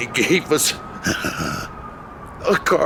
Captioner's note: crying